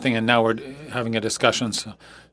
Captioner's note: speaking French